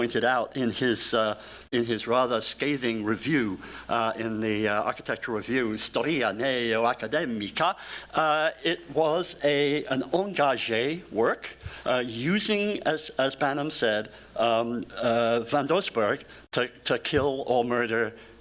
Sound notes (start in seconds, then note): 6.1 speaking italian